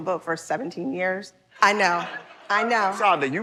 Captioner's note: laughter